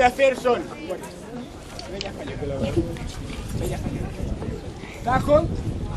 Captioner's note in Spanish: habla el público, da indicaciones